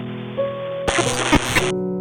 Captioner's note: digital glitch crackling